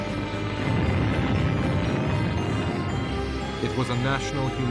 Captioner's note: exploding